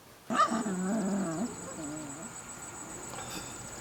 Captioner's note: dog growling